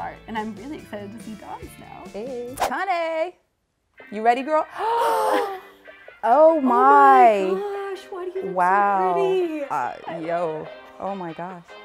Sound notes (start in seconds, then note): 4.8 both gasp